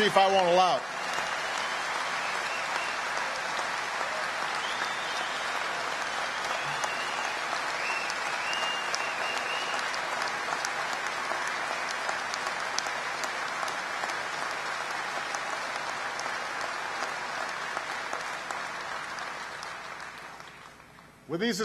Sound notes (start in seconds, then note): 2.2 applause; 11.2 applause